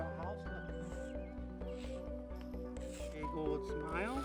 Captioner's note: chalk scraping